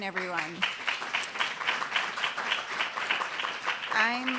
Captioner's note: applause